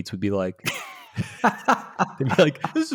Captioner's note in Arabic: يضحك